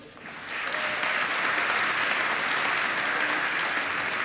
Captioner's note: applause